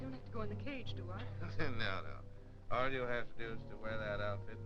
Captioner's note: chuckling